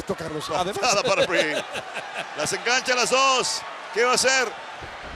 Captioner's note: laugh